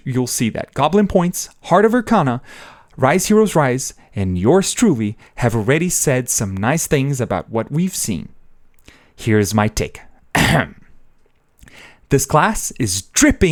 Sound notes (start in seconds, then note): 10.3 ahem